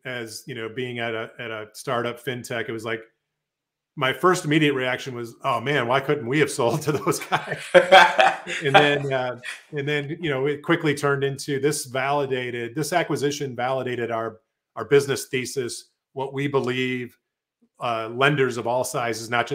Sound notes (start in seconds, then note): 5.9 laughs